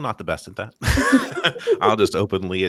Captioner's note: laughter